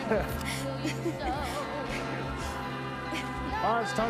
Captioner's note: laughs